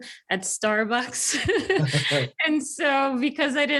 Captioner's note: both laugh